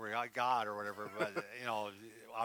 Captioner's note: laughs